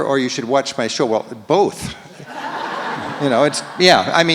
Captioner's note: audience laughs